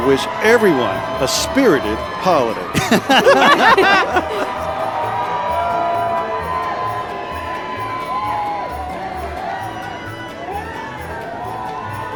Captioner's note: laughing; holiday music